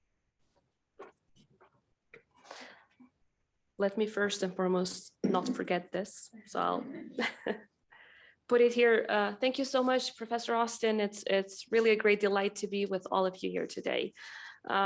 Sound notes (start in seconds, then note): 6.9 chuckles; 7.5 audience chuckling